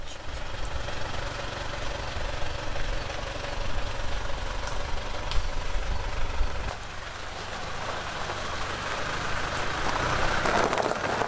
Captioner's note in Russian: звук мотора